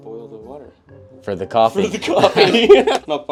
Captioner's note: both laugh